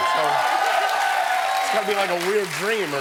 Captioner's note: cheering